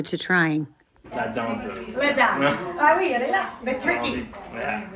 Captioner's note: family speaking french